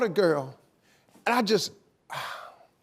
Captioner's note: sighing